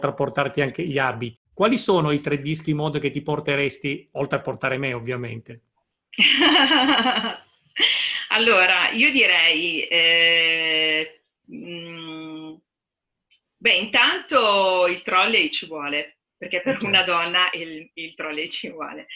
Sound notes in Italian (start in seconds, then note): 6.1 Risate